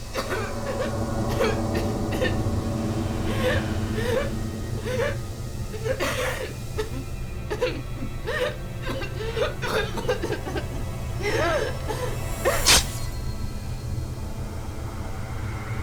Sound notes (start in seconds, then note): 0.0 coughing; 4.7 crying; 8.7 coughing; 12.4 blade slicing